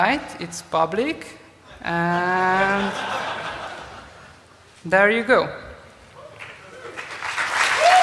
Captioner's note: applause